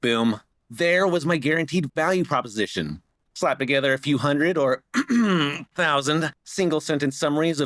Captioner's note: cough